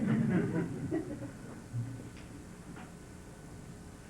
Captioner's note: laughter